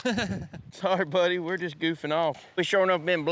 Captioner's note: laughs